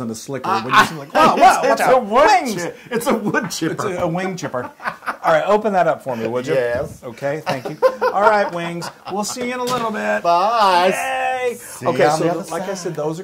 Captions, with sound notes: a sleeker when do you seem like, wow, wow, watch out, wings. >> It's a wood chipper, [LAUGH] >> It's a wing chipper. All right, open that up for me, would you? >> Yes. >> Okay, thank you. All right wings, we'll see you in a little bit. >> Boss! >> Yay! >> See you on the other side. >> Okay, so like I said,